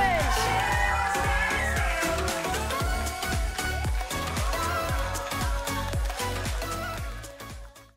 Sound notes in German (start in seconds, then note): 3.1 Jubel und Musik